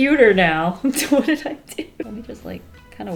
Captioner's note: laughs